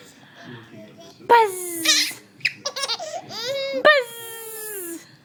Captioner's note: laughing